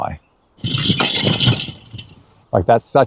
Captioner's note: chain rattling